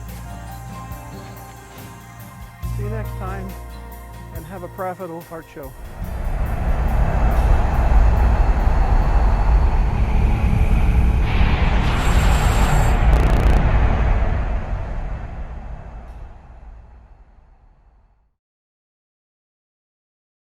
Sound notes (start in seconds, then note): 8.2 sound effects